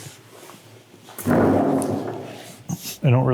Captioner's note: fabric shuffling; table scraping